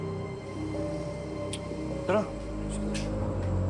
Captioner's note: clicks tongue